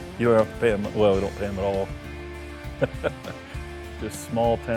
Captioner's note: laughs